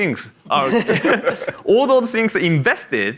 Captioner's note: group laughs